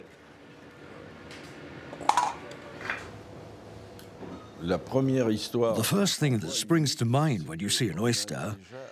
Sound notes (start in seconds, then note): 2.4 oysters clattering; 5.1 speaking in foreign language